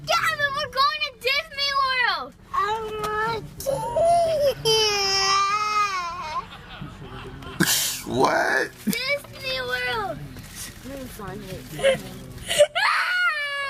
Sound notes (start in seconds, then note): 3.7 crying; 7.4 audience laughs